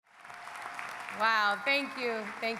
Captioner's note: audience applauding